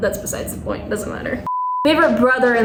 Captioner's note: beep